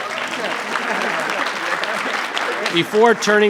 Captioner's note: audience clapping